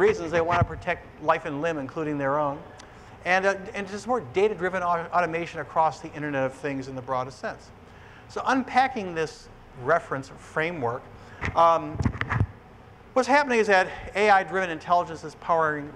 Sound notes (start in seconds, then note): none